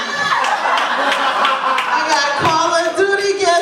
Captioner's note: laughter